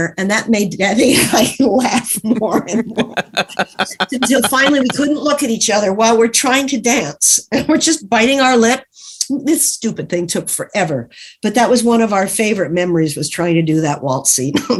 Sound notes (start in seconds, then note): 1.9 laughs